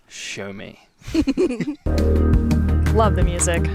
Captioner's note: all laughing